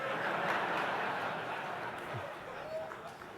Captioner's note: laughter